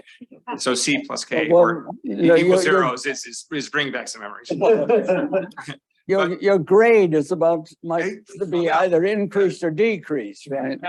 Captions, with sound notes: So C + K were... This bring back some memories. (audience laughing) - Your grade is above, to be either increased or decreased.